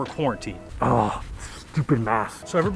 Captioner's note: man groans